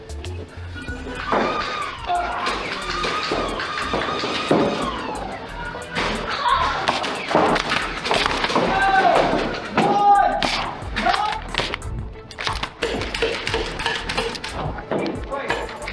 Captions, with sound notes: [Motors revving and darts thunking from multiple blasters with indistinct yelps] Two, one, time! [Exasperated cheer] [Deep rapid-firing thunking from blaster firing and footsteps] Hank, wait!